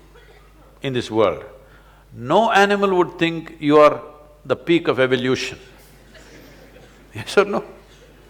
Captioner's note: laughter; laughs